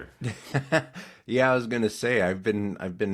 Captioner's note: laughing